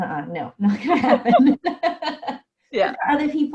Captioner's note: laughing